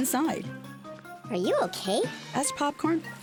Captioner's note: high-pitched Voice